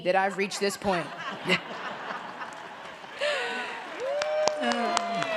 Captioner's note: applause